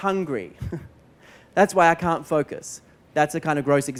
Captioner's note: laughs